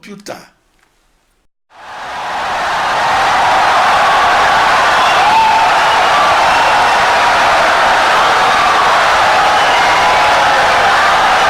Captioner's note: wild applause and cheering for 17 seconds